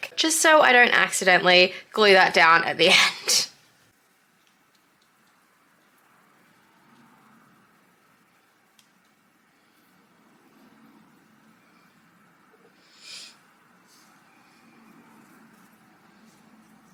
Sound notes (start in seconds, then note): 4.9 deep concentration and weird inhale